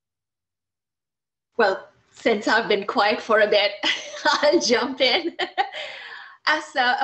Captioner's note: laughs